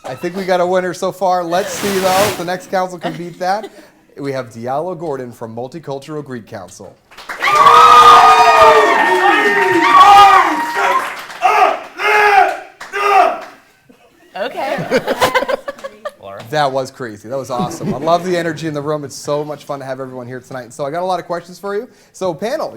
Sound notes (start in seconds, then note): 7.2 cheers and Applause; 8.3 shouting; 14.4 laughter